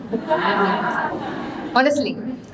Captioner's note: audience laughing